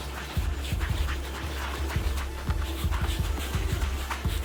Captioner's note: soothing music; yarn swooshing